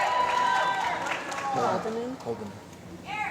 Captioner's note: applause